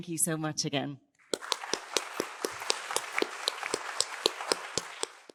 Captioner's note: applause